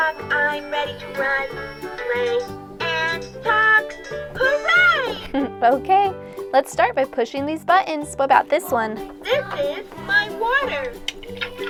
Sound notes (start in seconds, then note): 5.0 giggles